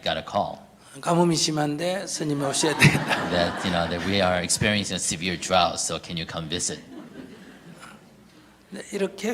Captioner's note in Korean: 스님과 청중 웃음